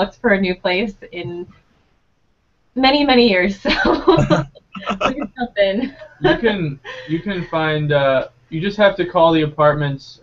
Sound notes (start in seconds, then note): 3.8 laughing